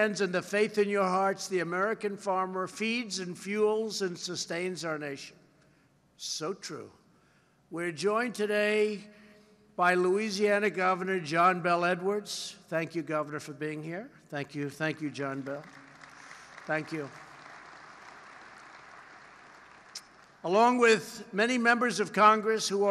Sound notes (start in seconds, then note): 15.1 applause